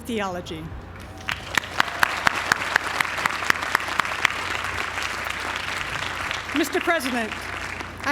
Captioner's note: applause